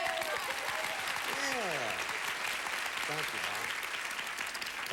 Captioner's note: audience applauding